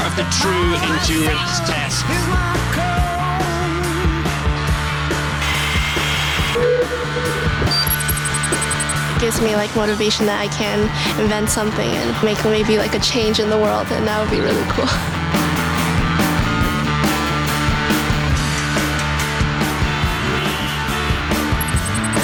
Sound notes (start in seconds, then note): 5.4 saw whirs; 6.2 computer beeps; 6.6 wind echoes; 19.6 cars honking; 21.5 digital beeping